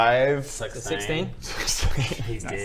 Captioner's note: laughs